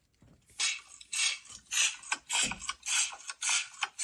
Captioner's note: sea snails clatter